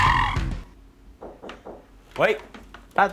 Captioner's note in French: Toc toc toc